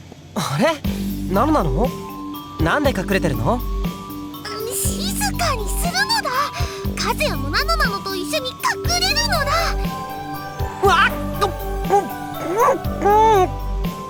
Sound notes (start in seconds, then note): 5.2 whisper